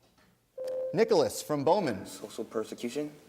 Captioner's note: ding